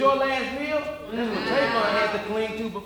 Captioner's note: audience mumbling